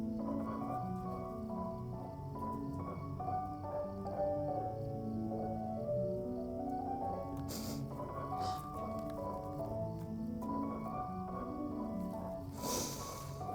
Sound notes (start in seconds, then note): 3.8 gentle music continues; 3.8 insects chirping continues